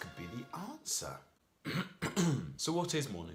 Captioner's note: clears throat